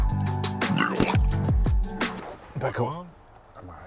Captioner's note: vomits